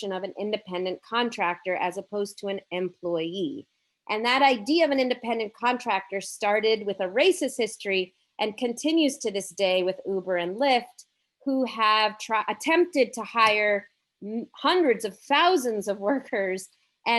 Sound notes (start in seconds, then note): none